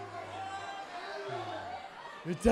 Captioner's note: crowd chatter